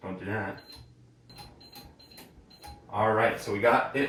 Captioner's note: buttons beeping